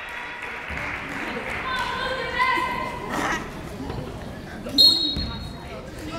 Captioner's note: clapping; yelling; whistle blowing